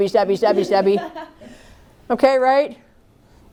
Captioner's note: laughter